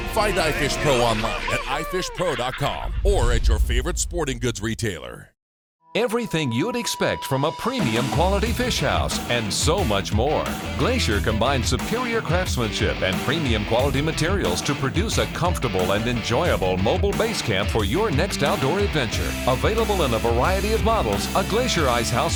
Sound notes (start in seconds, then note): 6.2 voiceover